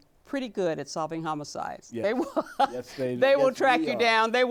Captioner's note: laughs